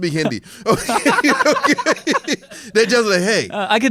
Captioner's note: laughs